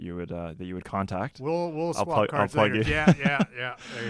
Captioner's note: laughs